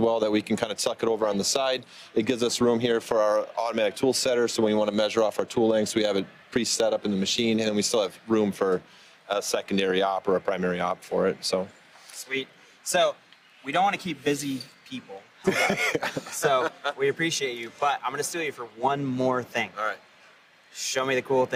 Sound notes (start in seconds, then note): 15.4 laughs